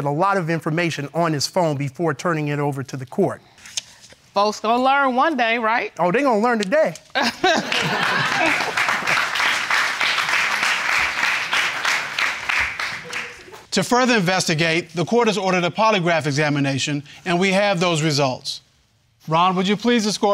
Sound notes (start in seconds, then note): 7.2 laughing; 9.7 applauding